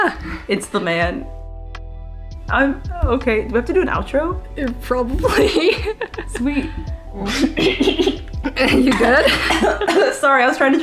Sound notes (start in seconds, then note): 7.1 choking on water